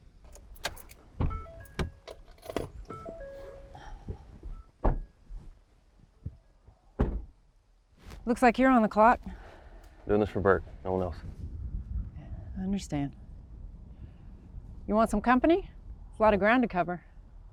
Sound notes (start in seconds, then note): 0.2 keys jangling; 1.2 door beeping; 3.7 Liz exhales; 3.7 doors thudding